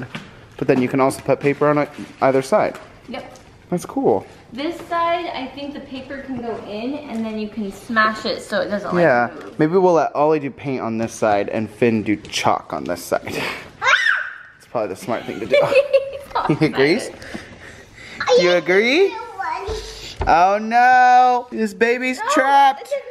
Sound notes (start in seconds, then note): 13.8 scream; 15.1 laughs